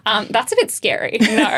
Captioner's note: laughing